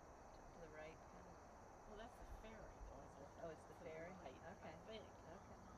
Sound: Annie and Lucie talking quietly

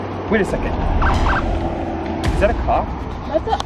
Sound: siren

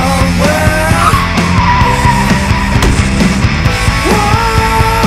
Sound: tires screeching

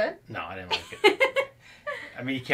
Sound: laughs

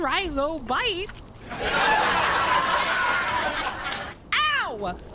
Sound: canned Laughter

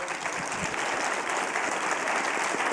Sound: applause

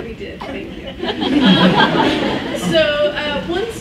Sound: laughs

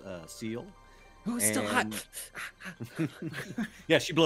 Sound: pants

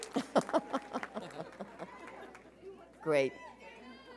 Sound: chuckles

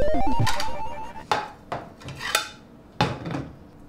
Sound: dishes clanking

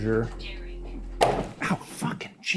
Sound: body thuds

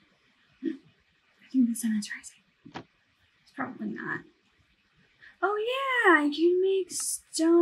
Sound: gasp

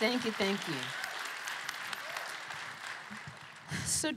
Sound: applause

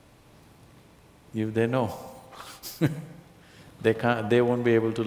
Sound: laughs

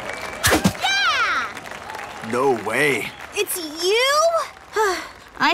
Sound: cheering, applause

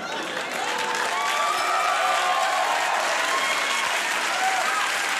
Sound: audience cheering

